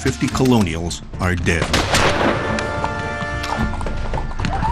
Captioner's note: guns banging